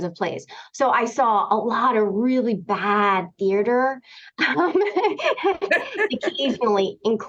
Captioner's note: laughter